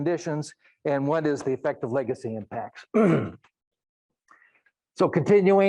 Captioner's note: clears throat